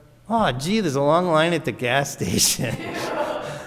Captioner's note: laughs; audience laughs